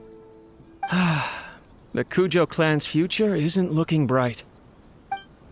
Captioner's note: sigh